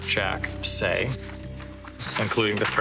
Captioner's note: papers shifting